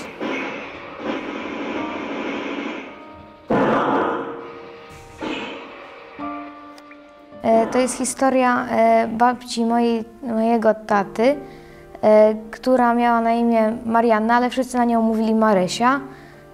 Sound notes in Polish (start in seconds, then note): 0.7 odgłosy walki